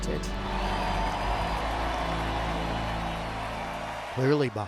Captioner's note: cheering